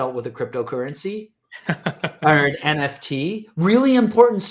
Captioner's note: laughing